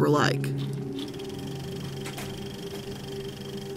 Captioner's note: reel rattling